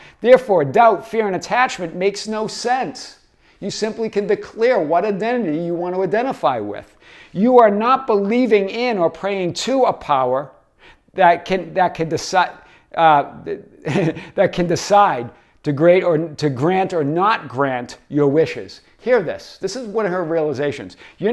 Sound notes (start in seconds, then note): 13.8 laughs